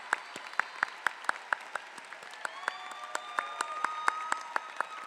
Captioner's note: applause